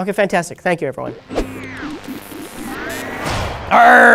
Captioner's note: antenna transmitting electrical signals